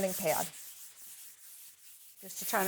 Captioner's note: pad scratching